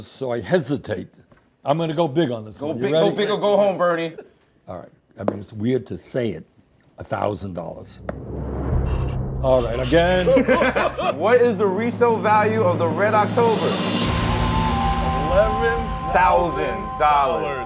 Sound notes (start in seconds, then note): 7.7 rumbling; 10.2 laughter; 13.8 crashing percussion